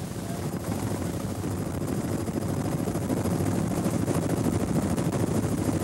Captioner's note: helicopter blades whirring